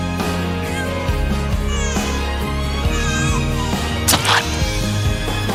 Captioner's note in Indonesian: suara tangisan bayi